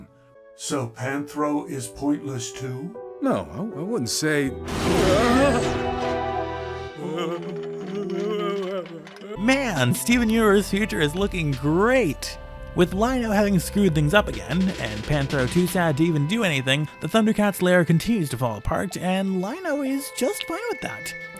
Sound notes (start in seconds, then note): 4.9 mechanical shutdown sound, Panthro starts to cry; 6.8 Driller and Panthro moan sadly